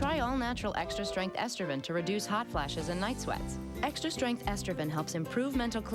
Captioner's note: none